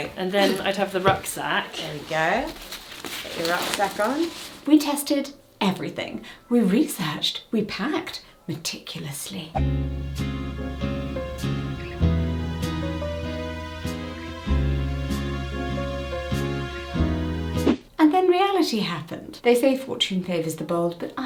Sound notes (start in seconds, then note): 9.5 screen whooshing; 9.6 gentle music; 17.5 screen whooshing